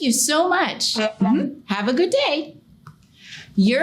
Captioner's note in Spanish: El Sr. Gator hablando galimatías